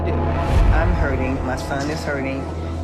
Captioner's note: transition whooshes